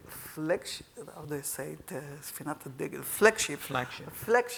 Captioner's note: speaking in Hebrew